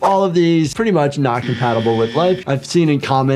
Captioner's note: screen whooshing; buzzer buzzing